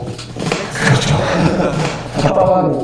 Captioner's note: laughs